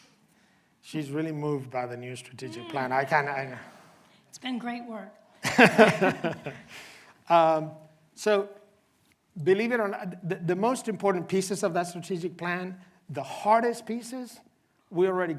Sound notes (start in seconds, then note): 5.1 coughing